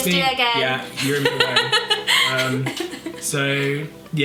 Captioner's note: laughs